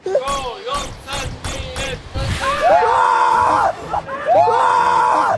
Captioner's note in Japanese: 一同：歓声